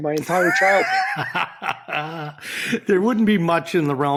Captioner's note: laughs